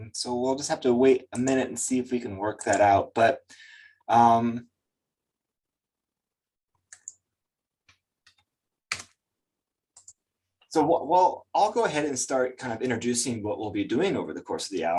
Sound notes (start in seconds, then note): 3.6 mouse clicking